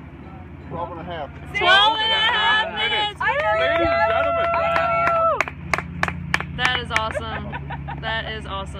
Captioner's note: various cheering